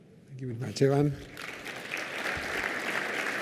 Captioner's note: applause